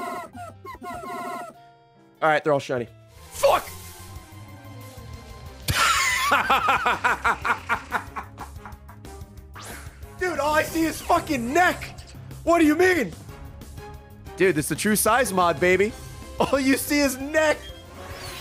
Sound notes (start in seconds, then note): 5.8 laughs